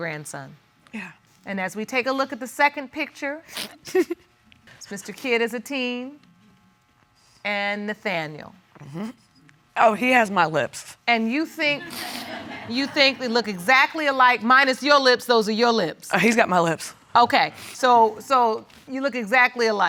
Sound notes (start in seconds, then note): 3.8 chuckles; 11.7 audience laughs